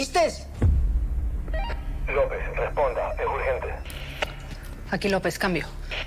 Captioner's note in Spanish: Pitido